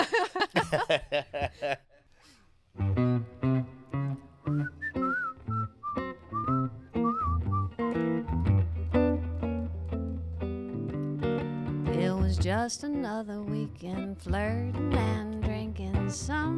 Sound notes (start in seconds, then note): 0.0 laughing; 3.1 gentle music; 4.5 whistling